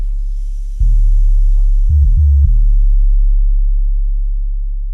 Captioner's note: water hisses